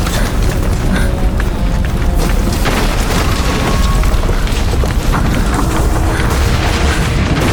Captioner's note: devastation roaring as people run